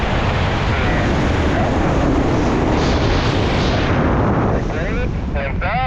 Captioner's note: roaring wind drowns out the radio